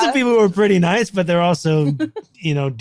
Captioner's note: laughing